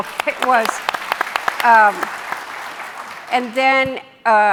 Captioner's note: audience applauding